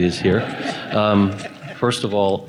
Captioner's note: laughter